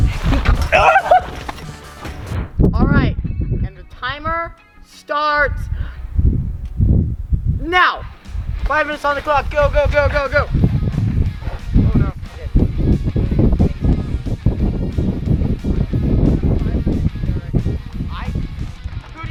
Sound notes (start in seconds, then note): 0.0 laughs merrily; 1.0 exclaims loudly; 5.5 dramatic music plays; 10.6 wind howling; 11.4 dramatic music plays